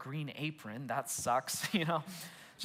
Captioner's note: laughs